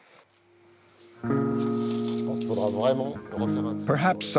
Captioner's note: gentle music; speaking in foreign language